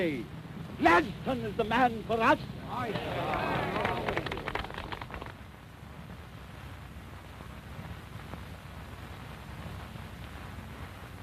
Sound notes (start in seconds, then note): 2.8 applause